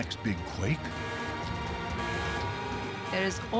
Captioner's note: klaxon blaring